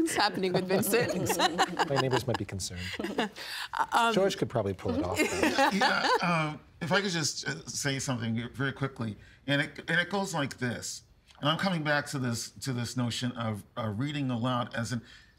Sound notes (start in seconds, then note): 0.0 laughing; 5.2 all laughing